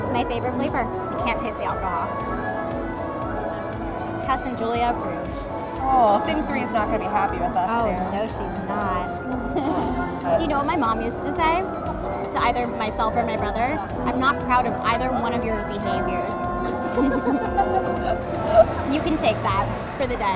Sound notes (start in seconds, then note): 9.3 laughs; 16.6 both laughing